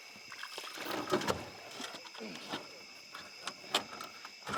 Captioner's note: water splashing